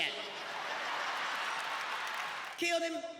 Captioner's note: audience laughing